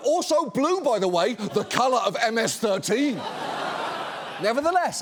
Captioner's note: studio audience laughs